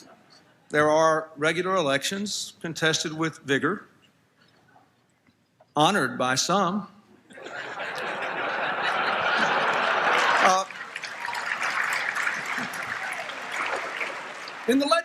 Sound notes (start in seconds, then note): 0.0 laughter; 7.4 applause, Laughter